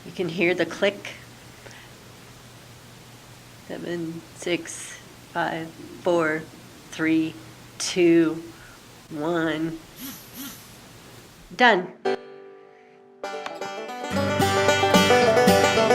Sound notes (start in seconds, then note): 9.9 buzz